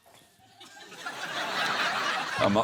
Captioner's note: laughter